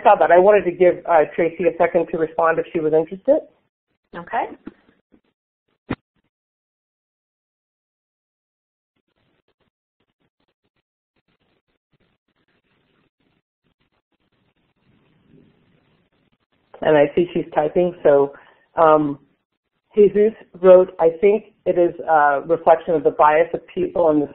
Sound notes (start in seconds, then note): 8.2 silence; 13.6 silence